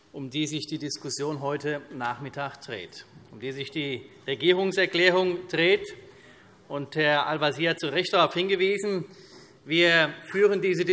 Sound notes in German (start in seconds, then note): none